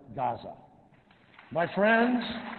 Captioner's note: applause